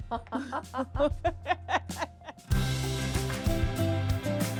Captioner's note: laughing